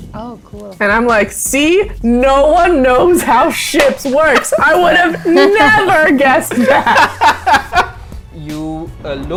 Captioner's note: laughter